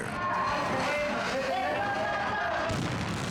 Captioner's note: officers shouting; bomb exploding